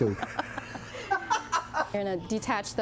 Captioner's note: laughing